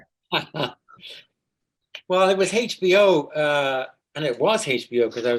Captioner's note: laughing